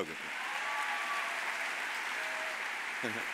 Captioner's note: audience cheers; audience applauding